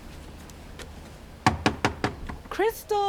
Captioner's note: Hazel knocking